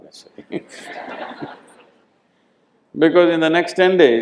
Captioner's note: laughter